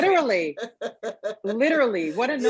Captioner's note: chuckling